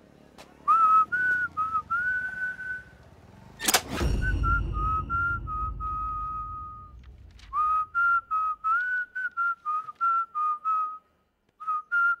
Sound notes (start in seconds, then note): 0.6 Whistles